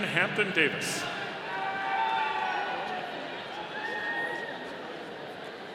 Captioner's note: audience cheering